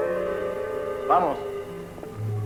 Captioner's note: speaks in Spanish